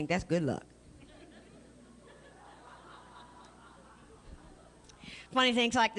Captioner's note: laughter